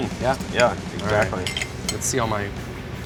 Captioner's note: silverware scraping on plate